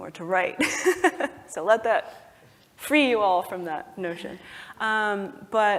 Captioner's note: laugh